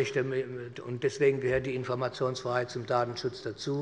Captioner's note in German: none